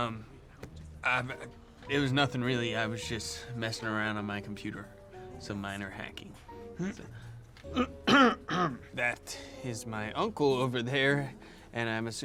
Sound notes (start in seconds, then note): 7.7 Hitch clearing throat